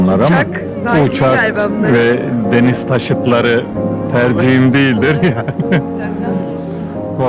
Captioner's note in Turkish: Gülüş sesleri